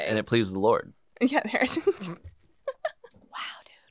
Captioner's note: laughs